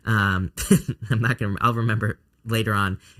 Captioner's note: chuckles